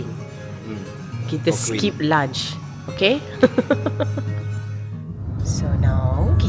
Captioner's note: laugh